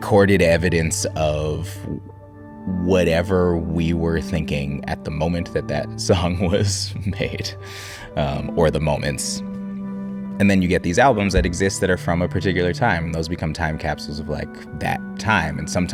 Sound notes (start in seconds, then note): 7.0 chuckling